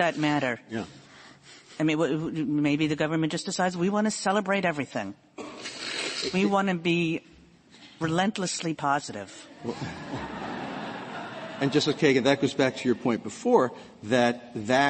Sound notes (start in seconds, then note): 9.6 laughter